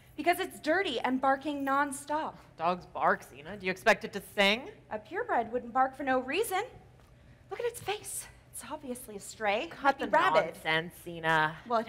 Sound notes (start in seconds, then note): none